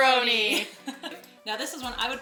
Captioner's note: laughing